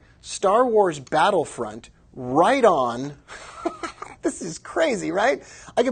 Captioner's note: laughs